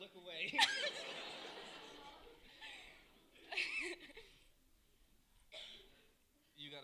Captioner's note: laughter